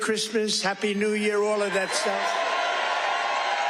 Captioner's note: cheers